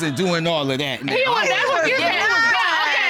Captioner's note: indistinct chatter